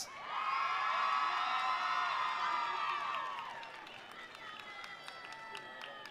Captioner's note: attendees cheering; attendees applauding